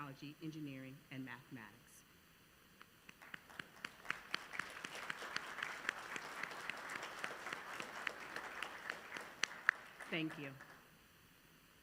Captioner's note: applause